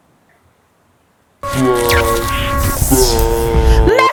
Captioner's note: explosion sound effects